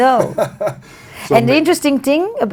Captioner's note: laughs